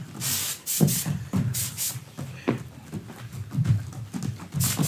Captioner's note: spray hisses